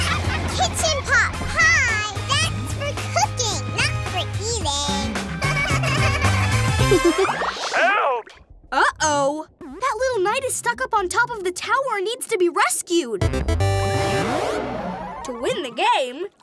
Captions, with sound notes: Kitchen pot pie? That's for cooking, not eating! [giggling] -Help! -Uh oh! That little night is stuck up on top of the tower and needs to be rescued! To win the game,